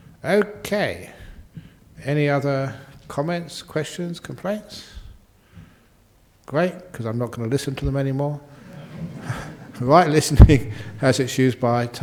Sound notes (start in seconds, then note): 8.6 laughter